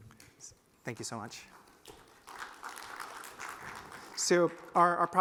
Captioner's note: applause